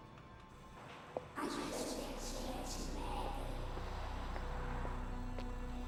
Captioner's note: girls Whispering